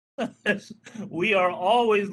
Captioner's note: laughing